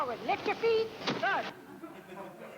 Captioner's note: thuds; audience laugh